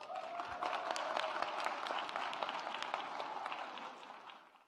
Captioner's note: audience applauds